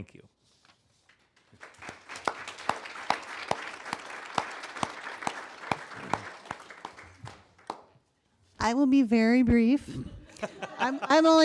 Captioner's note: applause